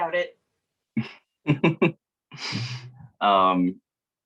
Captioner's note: laughs